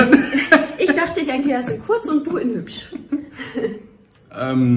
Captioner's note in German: beide lachen